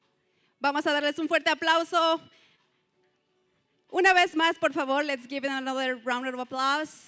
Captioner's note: non-english speech